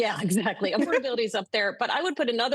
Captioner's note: laughter